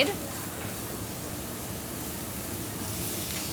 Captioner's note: sizzling